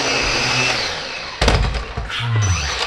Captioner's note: smack